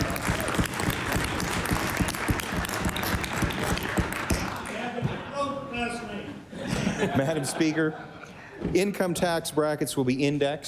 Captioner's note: cheering; applause